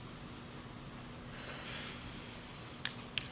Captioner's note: exhales heavily